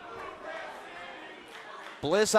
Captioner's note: fans chanting